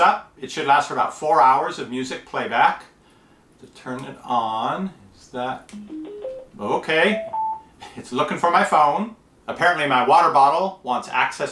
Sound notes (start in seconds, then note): 7.1 beeping